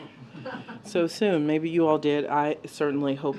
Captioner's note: laughter